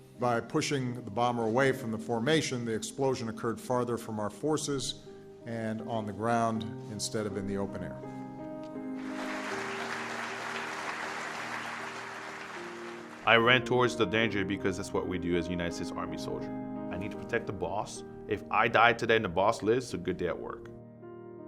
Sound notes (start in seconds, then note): 8.2 piano music; 9.0 audience applauding